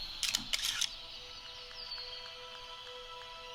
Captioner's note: camera shutter clicks; somber music